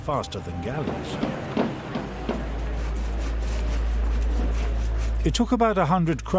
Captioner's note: saws clanging; hammers thudding